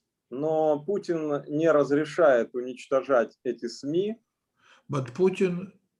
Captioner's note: speaking Russian language